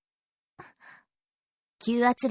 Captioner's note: silence